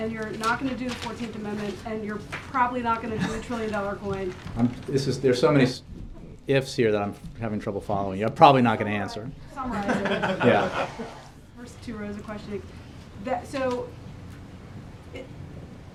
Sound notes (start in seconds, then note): 9.7 laughter